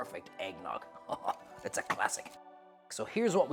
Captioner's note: chuckles